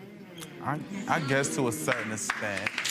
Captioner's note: audience members exclaiming